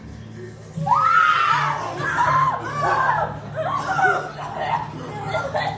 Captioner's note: screams